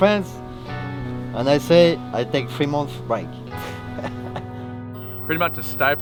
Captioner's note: laughs